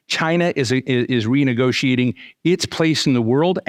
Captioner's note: none